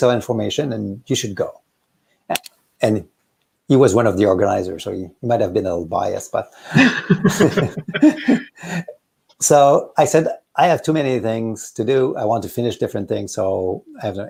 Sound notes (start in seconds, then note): 6.7 both laughing